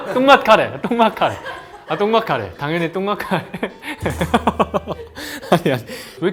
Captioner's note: laughter